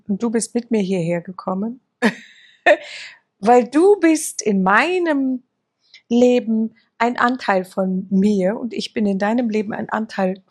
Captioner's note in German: gelächter